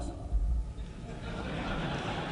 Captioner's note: laughing and applauding